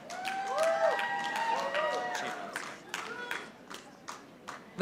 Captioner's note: audience applauding